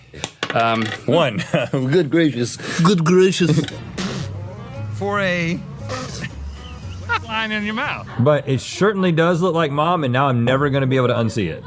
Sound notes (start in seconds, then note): 3.8 raspberry pufft